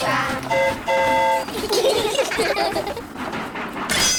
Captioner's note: train horn toots; all giggle